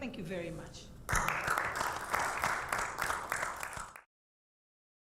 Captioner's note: audience applauding